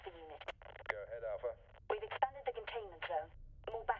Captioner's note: radio